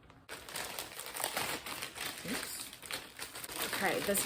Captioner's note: opening package